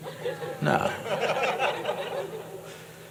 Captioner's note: laughter